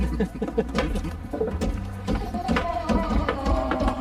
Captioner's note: both laughing